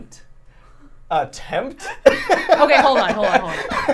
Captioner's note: laughs